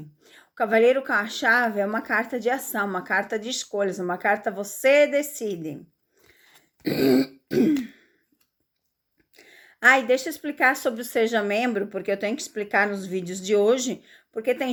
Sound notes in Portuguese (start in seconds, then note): 6.8 limpando a garganta